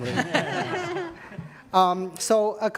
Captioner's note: audience laughing